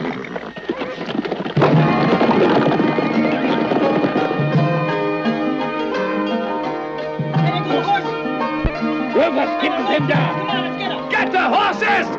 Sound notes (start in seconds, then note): 1.5 smack; 1.5 upbeat western music